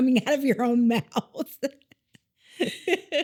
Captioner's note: laughing